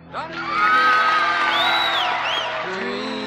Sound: cheers and applause

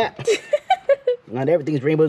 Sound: laughs

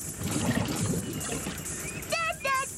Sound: snare Drums; sloshing

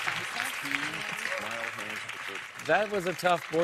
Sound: whispering

